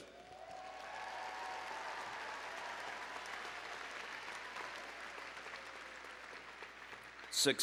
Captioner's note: applause and Cheering